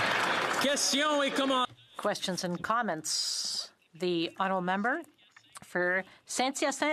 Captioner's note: some Applause